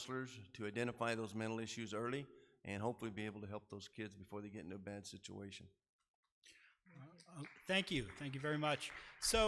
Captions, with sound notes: to identify those mental issues early and hopefully be able to help those kids before they get into a bad situation. (audience applause) - Thank you. Thank you very much.